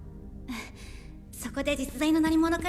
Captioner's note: sighs